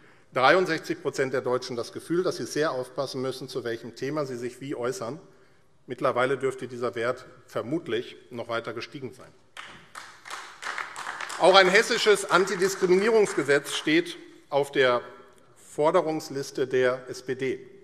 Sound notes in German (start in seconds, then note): 9.5 Beifall AfD